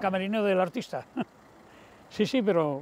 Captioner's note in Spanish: Ríe